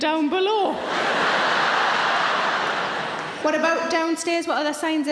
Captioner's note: audience laughing